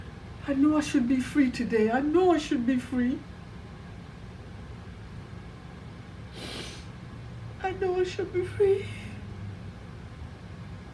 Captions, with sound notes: I know I should be free today. I know I should be free. (sniffles) I know I should be free.